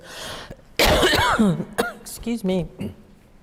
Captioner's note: coughs